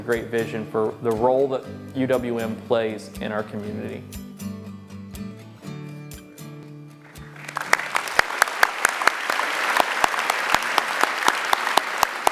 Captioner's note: applause